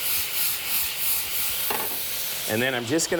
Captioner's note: food sizzles